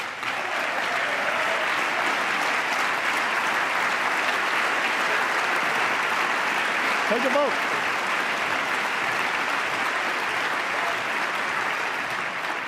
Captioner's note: applause